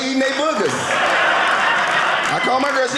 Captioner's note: audience laughing